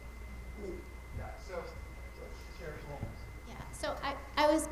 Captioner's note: light chatter